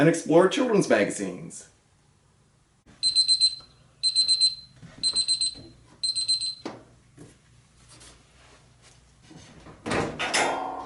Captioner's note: beep, beep, beep